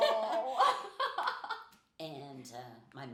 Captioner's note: laughing